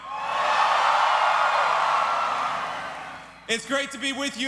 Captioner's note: cheers